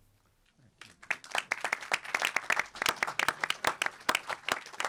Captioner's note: audience applauding